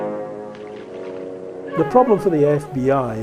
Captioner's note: water rippling